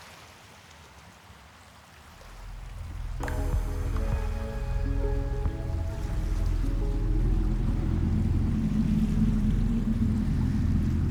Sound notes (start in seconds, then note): 0.2 water flows; 3.3 peaceful music; 7.9 wind blows